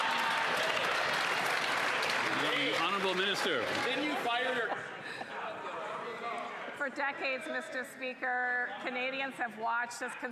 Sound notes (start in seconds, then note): 3.3 applause